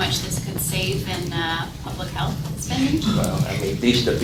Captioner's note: laughing